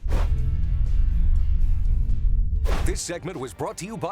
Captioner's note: log swoosh